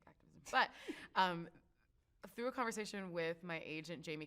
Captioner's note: chuckles